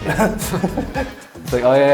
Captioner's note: both laughing